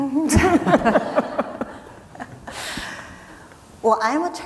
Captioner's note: people laughing